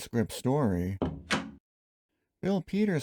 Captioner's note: door closing